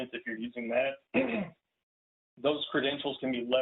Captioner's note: clears throat